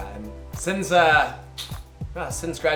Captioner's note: clicks tongue